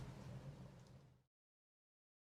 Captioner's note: rain fades out